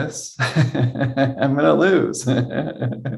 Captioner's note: laughing